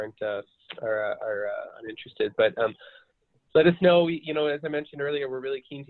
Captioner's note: glitch interferes with audio